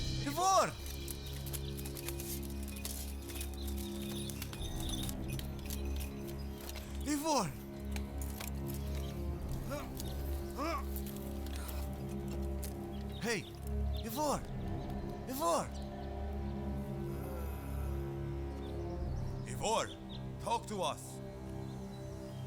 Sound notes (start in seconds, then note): 9.5 grunting; 16.9 groaning